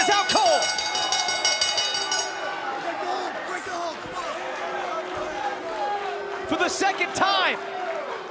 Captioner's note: bell ringing